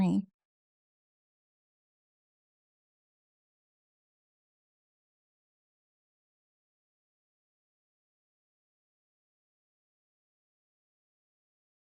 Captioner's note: silence